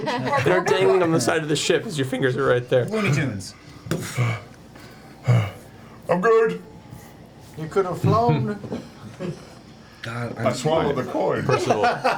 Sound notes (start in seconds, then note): 3.5 breathing hard